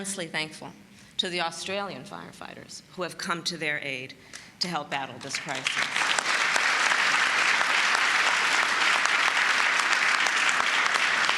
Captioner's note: applause